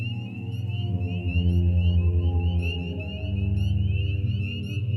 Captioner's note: peepers Peeping